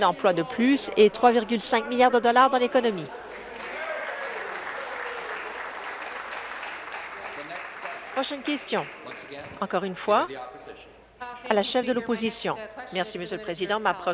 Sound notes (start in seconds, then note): 5.4 voice fades; 7.5 applause